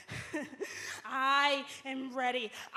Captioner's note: laughter